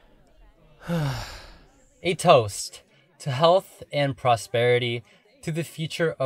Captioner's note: sighs